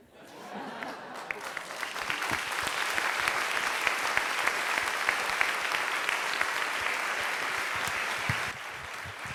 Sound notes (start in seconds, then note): 0.0 crowd Laughing; 3.6 crowd Clapping